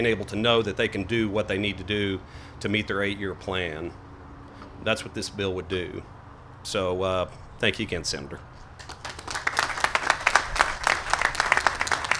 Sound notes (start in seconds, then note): 8.8 applause